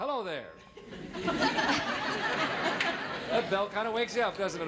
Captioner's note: audience laughing